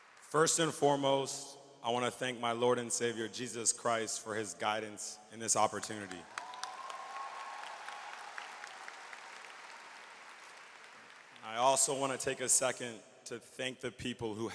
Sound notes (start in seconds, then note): 6.2 audience cheers and applauds